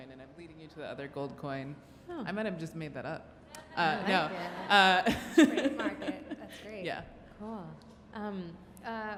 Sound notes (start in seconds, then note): 3.8 laughs